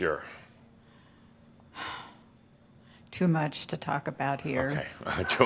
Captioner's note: sighs